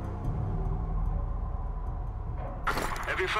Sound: gunshots

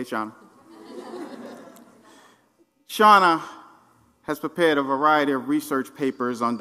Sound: laugh

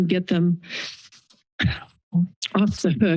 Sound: pause

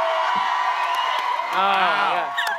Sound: cheering

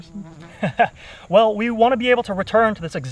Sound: laughs

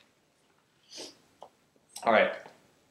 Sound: sniff

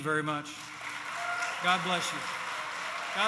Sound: applause

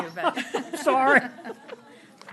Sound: laughter

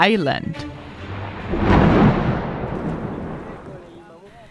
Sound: thunder booming

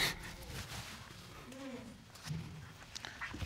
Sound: sobs

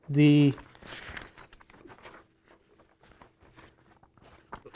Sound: turning Pages

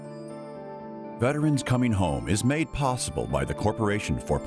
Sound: gentle music; voiceover

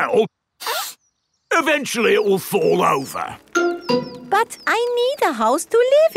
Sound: sniffs

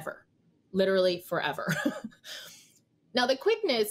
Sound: chuckles

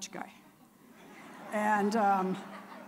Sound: audience laughing

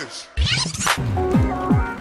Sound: reverse record scratch

